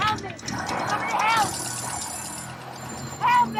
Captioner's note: bell trills